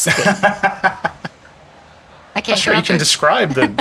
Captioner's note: laughing